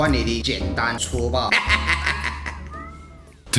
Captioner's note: laugh